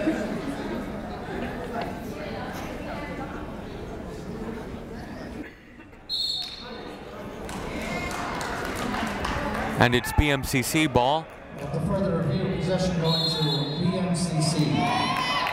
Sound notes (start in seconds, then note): 6.1 whistle blowing; 7.4 clapping